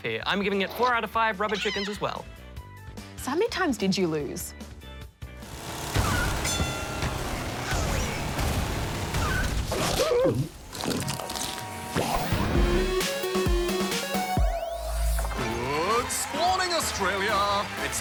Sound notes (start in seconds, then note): 6.4 bell dings; 9.8 gulp!; 11.0 crunches